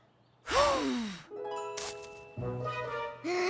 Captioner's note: blows; inhales deeply; inhales deeply